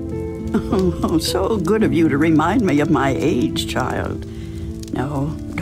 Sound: chuckles

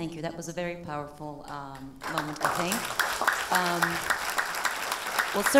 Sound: audience applause

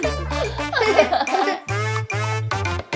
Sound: laughing

